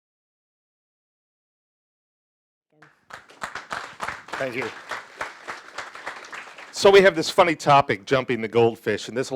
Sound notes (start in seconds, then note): 2.8 audience applauding